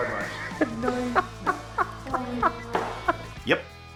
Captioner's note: laughter